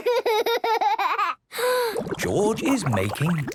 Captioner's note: inhales deeply, water bubbling